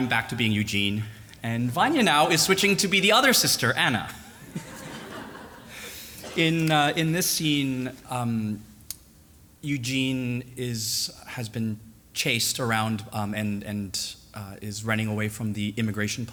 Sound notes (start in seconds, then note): 4.3 laughter